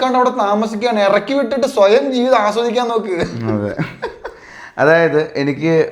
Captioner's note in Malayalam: പൊട്ടിച്ചിരി